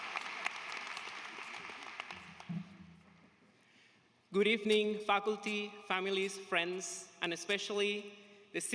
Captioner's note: applause